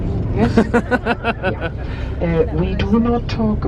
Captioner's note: laughing